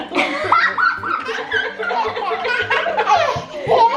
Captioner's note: family laughs